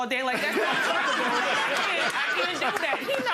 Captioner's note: audience laughing